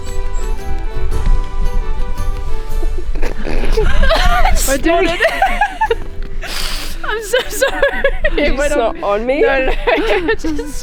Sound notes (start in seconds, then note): 2.8 laughing